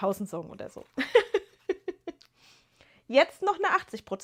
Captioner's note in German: gelächter